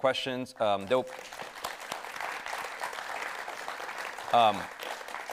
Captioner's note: audience applauding